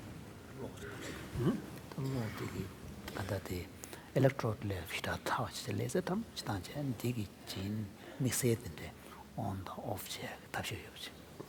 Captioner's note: foreign Language